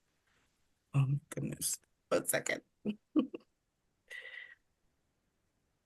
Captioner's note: laughs